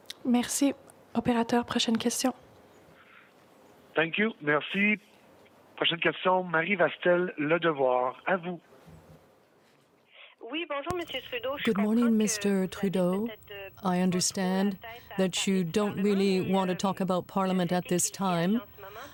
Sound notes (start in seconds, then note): 15.5 speaking french